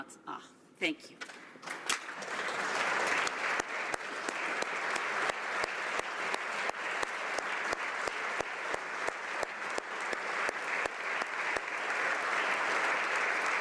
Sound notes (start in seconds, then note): 2.9 speaking alternate language; 7.7 applause